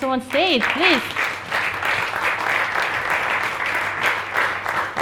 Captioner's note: audience applauds